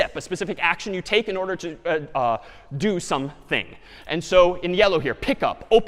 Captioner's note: none